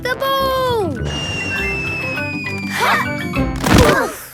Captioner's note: whistling through air